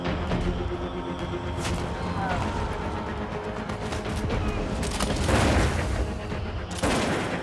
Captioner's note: gunfire